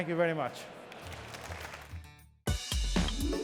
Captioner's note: applause